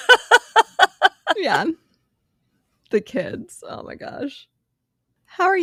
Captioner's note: laughs